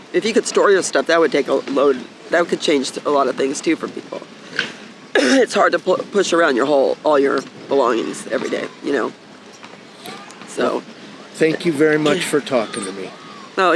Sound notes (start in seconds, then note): 5.1 coughing